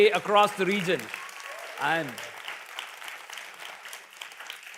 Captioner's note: cheers, applause